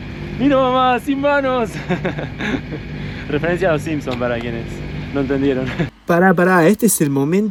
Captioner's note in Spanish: risas